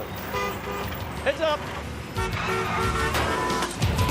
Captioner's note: taxicab horn honks